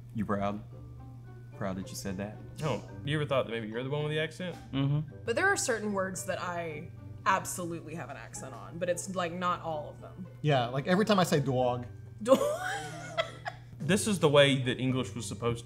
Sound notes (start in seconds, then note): 12.3 laughs